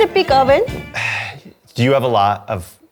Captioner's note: sighs